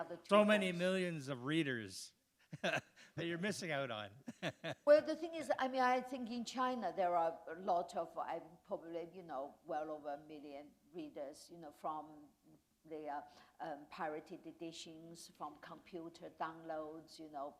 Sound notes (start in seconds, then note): 4.2 chuckle